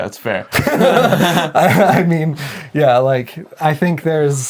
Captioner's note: laughing